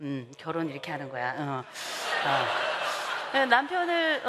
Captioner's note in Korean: 웃음